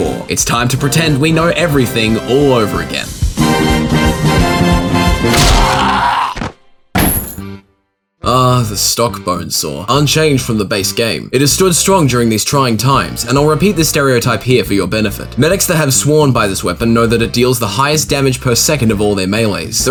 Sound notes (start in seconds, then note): 5.2 Medic crushed and screams